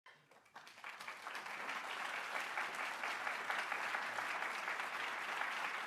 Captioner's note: applause